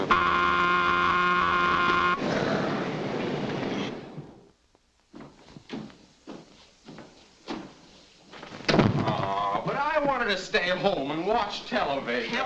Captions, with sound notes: - Hmm. (work whistle blares) - Aww, but I wanted to stay home and watch television!